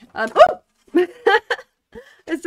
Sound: laughing

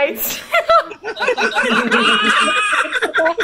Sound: laughs

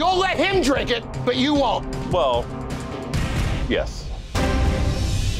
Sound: none

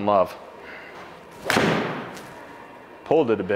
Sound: ball thuds

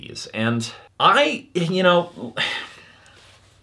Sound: sighs

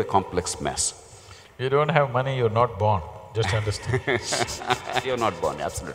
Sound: laughter

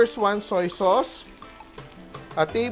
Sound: sizzle

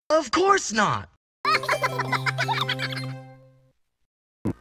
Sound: high pitched laughter

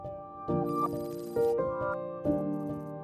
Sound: pensive music; electric beeping; pensive music

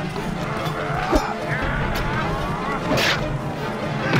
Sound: metal clanging

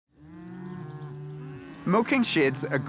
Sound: cows mooing

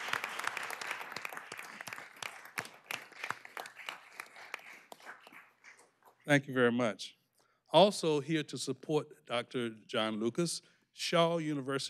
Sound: applause

